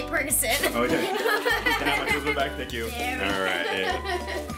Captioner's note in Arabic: ضحك